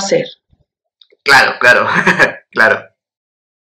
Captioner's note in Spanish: ríe incómodo